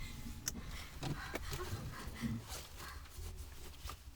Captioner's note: Connie gasps